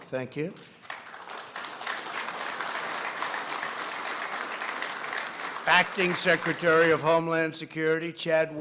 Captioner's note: applause